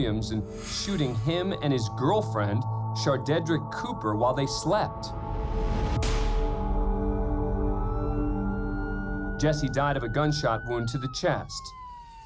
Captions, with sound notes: and shooting him and girlfriend, Chardedric Cooper, while they slept. [gunshot] [siren wailing] Jesse died of a gunshot wound to the chest.